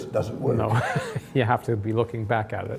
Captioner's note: laughs